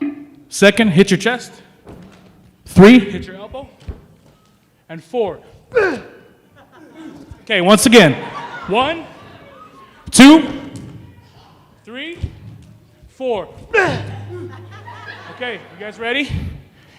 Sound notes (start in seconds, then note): 5.7 grunts; 13.7 grunts